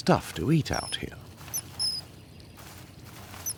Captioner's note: bird chirping